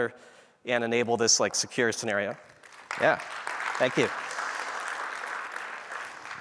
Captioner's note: applause